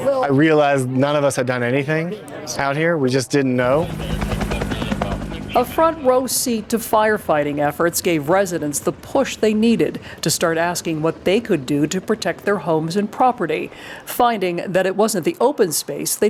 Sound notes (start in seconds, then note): 4.1 helicopter whirring